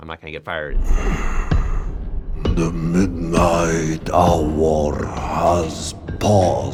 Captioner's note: wheezing